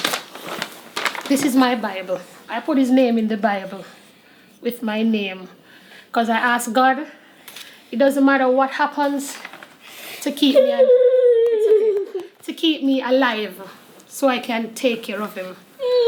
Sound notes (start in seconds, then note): 10.5 crying